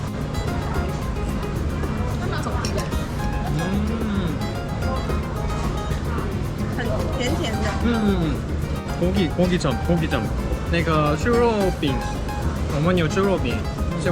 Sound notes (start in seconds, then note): 3.3 impressed